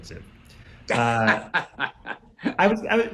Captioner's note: Andre laughs